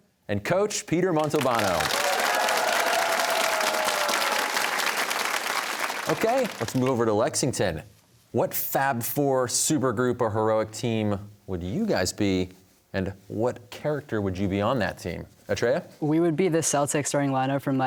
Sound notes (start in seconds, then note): 1.2 cheers and applause